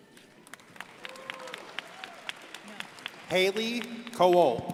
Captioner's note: crowd applauding